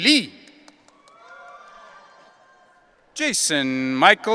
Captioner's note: audience cheering